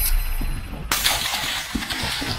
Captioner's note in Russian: выстрел